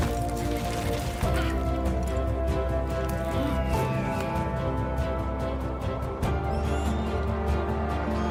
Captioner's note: grunting